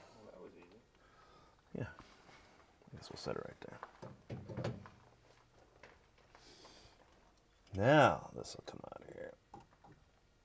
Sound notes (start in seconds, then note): none